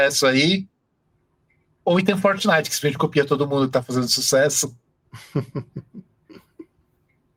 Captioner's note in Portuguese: risos